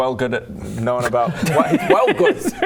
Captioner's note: chavvy giggles